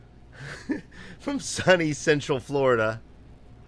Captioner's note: laughing